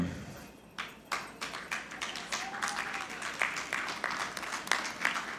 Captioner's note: audience clapping